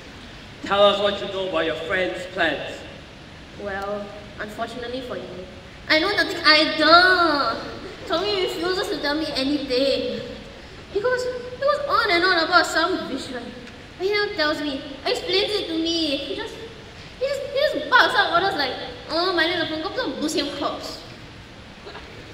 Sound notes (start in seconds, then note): 6.0 whining